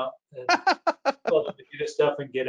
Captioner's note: laughs